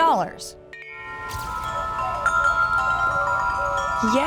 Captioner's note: chiming